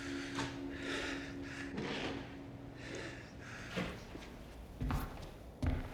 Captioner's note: breathing heavily